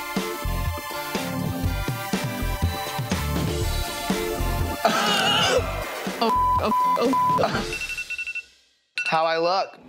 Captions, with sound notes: (upbeat music) (laughs) Oh (beeps), oh (beeps), oh (beeps). (timer beeping) - How do I look?